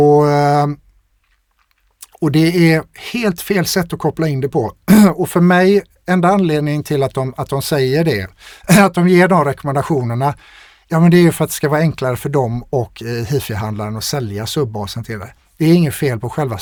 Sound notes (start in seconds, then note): 4.8 clears throat